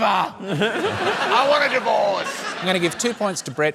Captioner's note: laughter